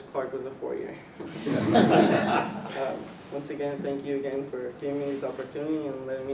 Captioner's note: laugh